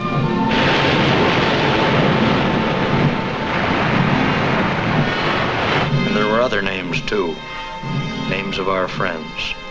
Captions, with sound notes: (waves crashing) (soft patriotic music) And there were other names, too. Names of our friends.